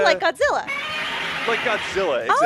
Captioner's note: godzilla roar